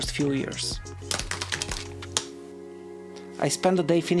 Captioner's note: keyboard clicking